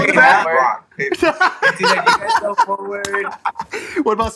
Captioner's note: laughs